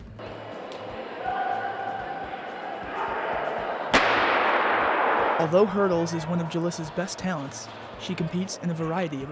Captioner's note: starting gun